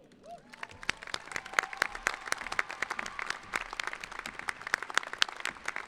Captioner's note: cheering